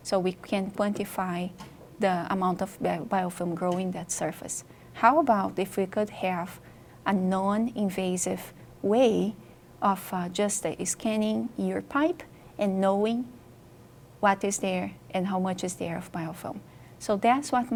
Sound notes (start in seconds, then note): none